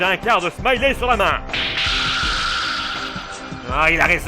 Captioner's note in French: bruitage révélation